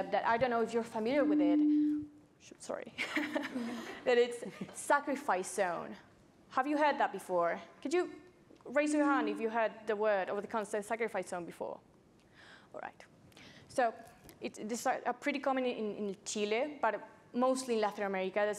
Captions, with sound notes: that I don't know if you're familiar with it. (microphone reverbs) Sorry. (laughs) But it's "sacrifice zone." Have you heard that before? Could you raise your hand if you heard the word, or the concept "sacrifice zone" before, all right. So it's pretty common in Chile, but mostly Latin America.